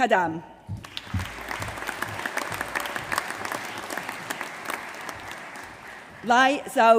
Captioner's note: applause